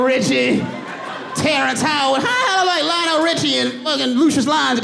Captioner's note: audience laughs